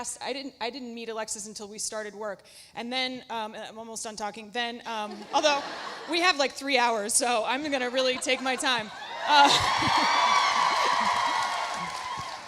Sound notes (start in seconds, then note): 4.8 Alexis laughs; 8.9 audience cheering; 9.0 audience applauding